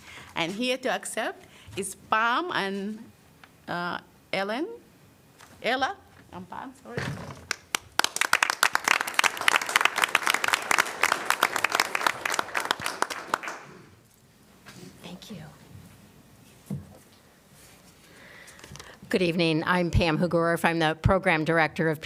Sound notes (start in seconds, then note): 7.4 applause